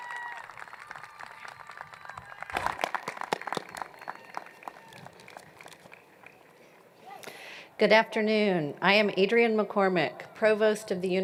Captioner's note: cheers and Applause